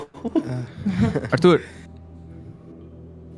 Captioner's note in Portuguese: Risadas